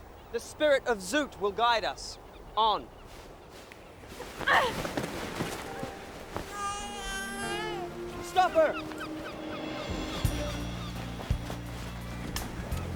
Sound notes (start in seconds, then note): 6.4 baby cries; 10.3 soft music